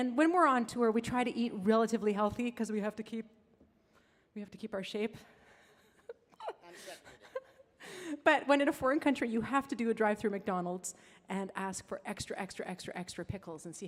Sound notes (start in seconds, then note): 6.2 laughs